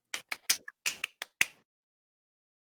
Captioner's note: clapping